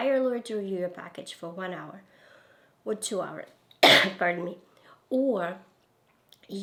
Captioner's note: coughs